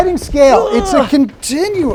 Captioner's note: groaning